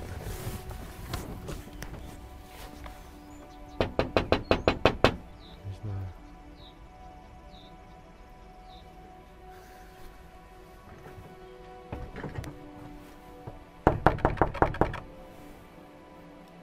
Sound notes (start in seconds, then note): 3.8 knocks on window; 13.8 knocks on door